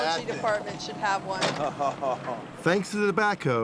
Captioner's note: chortling